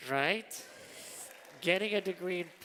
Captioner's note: applause